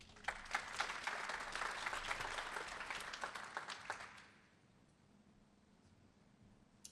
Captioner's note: applause